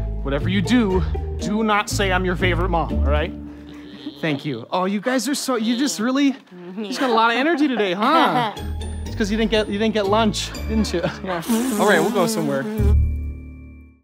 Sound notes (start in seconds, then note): 11.4 blows a raspberry